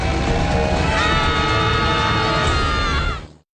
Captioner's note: screaming